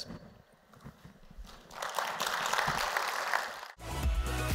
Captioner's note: applause